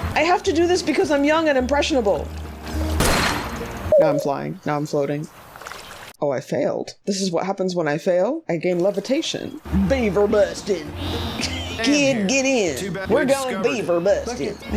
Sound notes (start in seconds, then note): 9.4 exaggerated southern accent